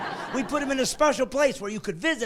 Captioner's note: laughing